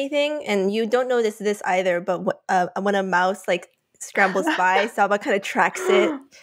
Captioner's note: laughs